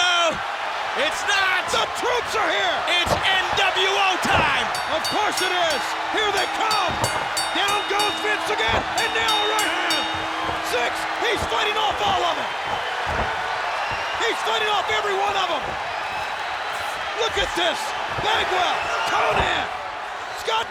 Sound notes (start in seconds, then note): 5.9 bell rings